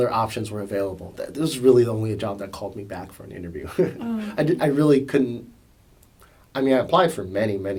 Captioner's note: laughs